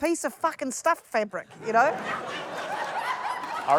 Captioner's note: laughter